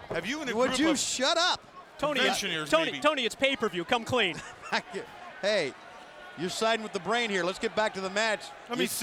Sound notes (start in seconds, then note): 4.3 chuckles